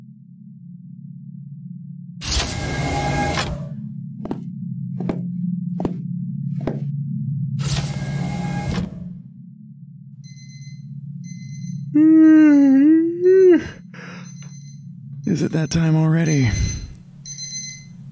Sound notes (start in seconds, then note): 10.1 alarm; 11.9 yawn